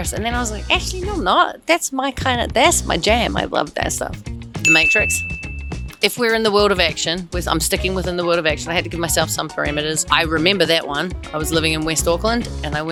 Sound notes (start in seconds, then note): 4.6 bell dings; 8.4 jazzy music continues